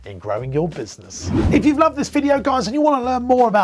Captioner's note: whooshing